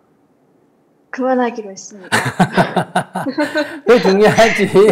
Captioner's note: /Questioner Laughter